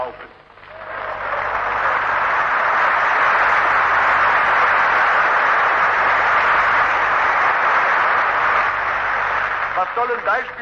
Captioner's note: applause